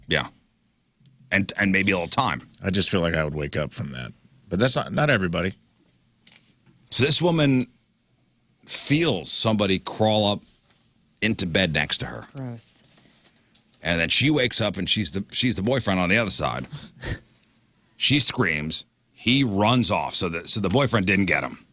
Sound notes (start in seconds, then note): 16.6 chuckles